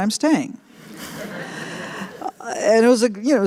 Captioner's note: laughter